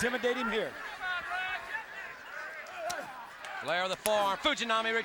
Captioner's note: audience chattering